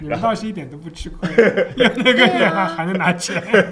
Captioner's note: laughter